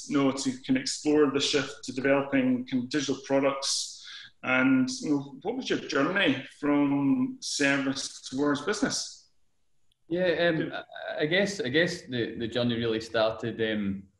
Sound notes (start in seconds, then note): 7.0 audio distorts